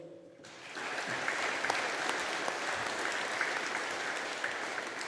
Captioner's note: audience applauding